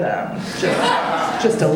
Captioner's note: audience laughing